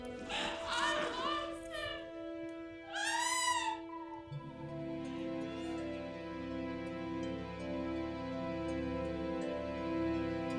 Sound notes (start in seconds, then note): 2.9 cries out; 4.3 soft dramatic music